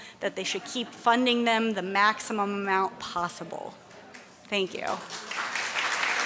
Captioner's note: applause